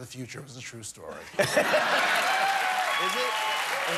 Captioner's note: cheers and applause